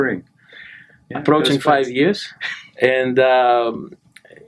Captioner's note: laughs